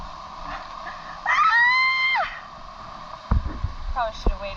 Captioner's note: screams